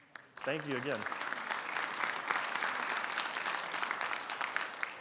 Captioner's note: audience applauds